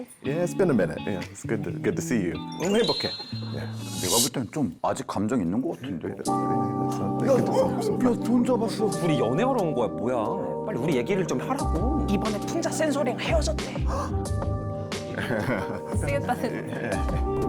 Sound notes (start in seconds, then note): 2.6 satisfied sound effect